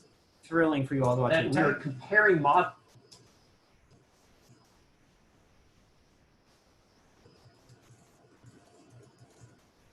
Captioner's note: typing